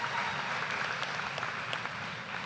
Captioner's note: applause